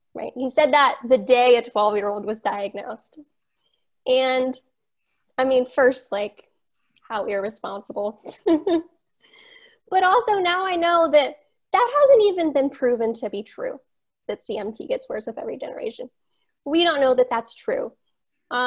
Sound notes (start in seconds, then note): 8.2 laughs